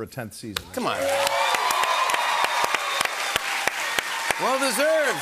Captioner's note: cheers and applause